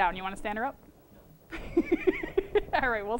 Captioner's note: laughter